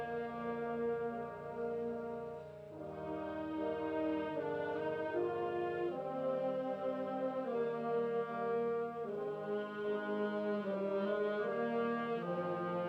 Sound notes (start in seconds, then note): none